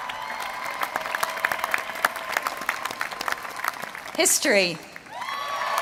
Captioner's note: applause